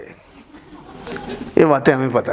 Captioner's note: laughing